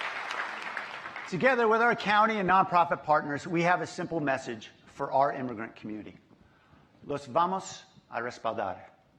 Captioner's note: applause